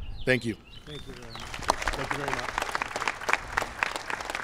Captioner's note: applause